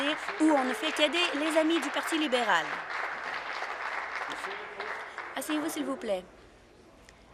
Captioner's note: applause